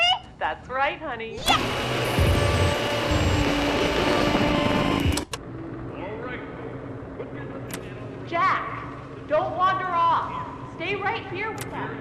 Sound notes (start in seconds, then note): 1.4 hissing